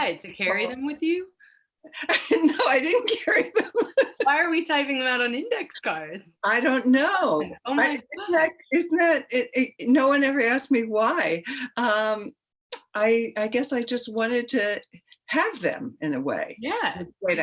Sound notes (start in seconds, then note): 3.5 laughing